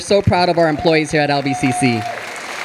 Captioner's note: audience applauding